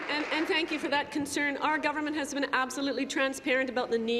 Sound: applause

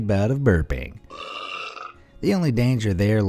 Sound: boy burps

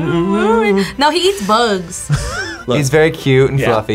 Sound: React laughs

